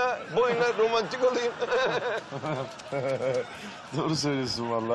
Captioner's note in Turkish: Gülme sesi